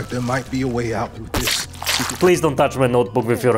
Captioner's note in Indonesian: Splat